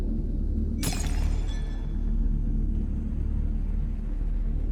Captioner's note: prototype shatters